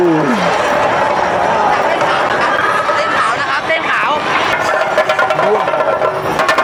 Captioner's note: cheering; loud drum procession